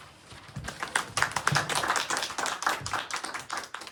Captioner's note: applause